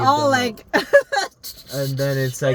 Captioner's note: laughing